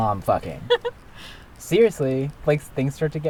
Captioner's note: laughs